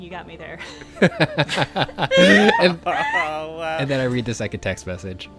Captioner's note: laughing